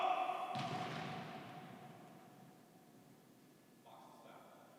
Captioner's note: feet stomping